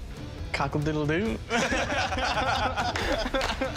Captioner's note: laughter